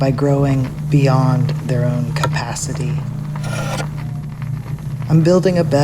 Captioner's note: sound of wood-working